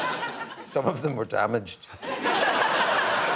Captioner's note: laughter